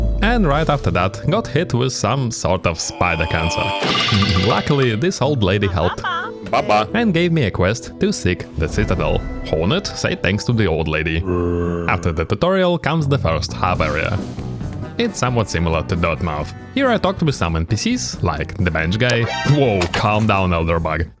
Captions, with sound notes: and right after that got hit with some sort of spider cancer Luckily this old lady helped and gave me a quest to seek the Citadel Hornet say thanks to the old lady *zombie noises* After the tutorial comes the first hub area It's somewhat similar to Dirtmouth Here I talked with some NPCs like the bench guy Woah calm down Elderbug